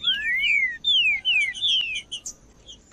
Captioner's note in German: trinca ferro cantando